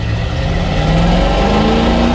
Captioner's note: engine noise